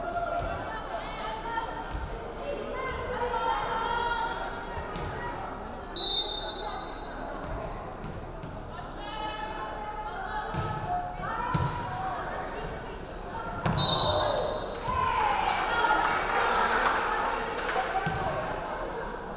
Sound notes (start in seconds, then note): 6.0 referee whistling; 13.6 referee whistling; 15.1 crowd clapping